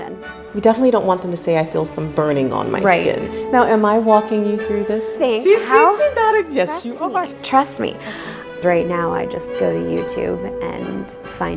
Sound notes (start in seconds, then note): 8.0 gasp